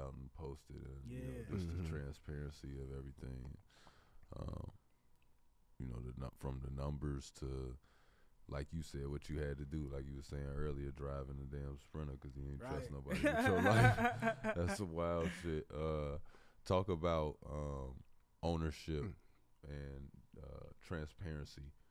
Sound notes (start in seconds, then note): 12.7 laughs